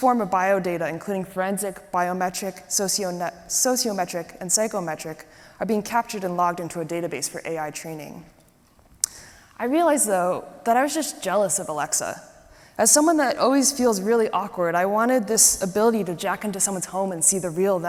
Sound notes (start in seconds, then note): none